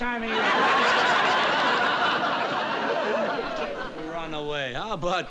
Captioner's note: laughter